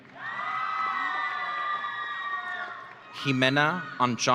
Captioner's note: audience cheering